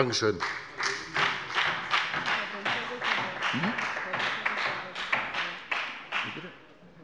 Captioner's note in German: Beifall bei der FDP